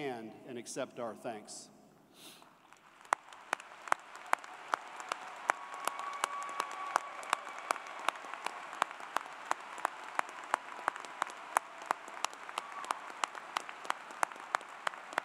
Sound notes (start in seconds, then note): 4.5 applause